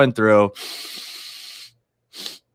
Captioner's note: inhales